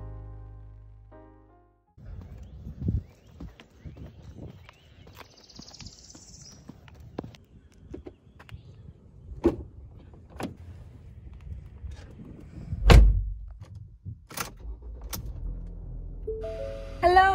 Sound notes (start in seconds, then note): 12.8 door slams; 14.3 car starts